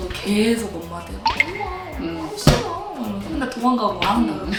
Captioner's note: whine whine